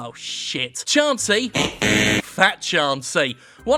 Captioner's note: buzzer buzzes